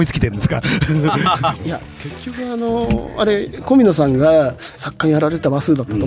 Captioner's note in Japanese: 笑い